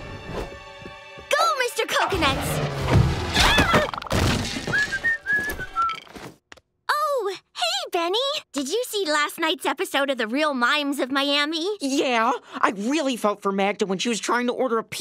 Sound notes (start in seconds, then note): 3.3 screaming; 4.6 whistling